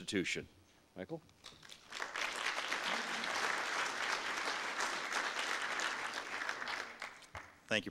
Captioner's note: audience applause